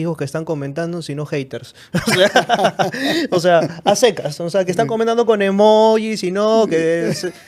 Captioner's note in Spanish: risas; risas